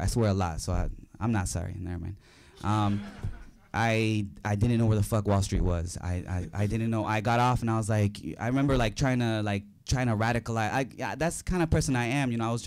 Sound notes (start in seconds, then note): 2.5 audience laughing